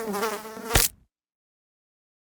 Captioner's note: fly buzzing; fly splatting